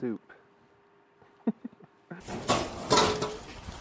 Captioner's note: laughs